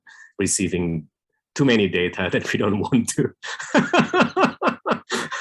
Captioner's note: laughs